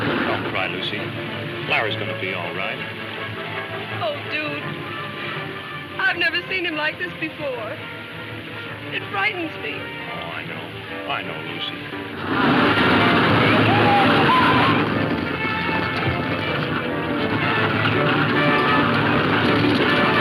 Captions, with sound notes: - Don't cry, Lucy. Larry's going to be alright. - Oh, Dude. I've never seen him like this before. It frightens me. - Oh, I know. I know, Lucy. (horses galloping) - Yeehah!! (dramatic music playing)